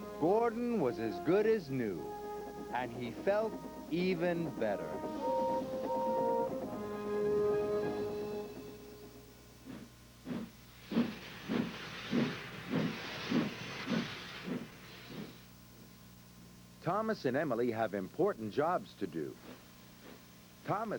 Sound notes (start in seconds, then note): 5.2 whistle toots; 10.7 engine chugging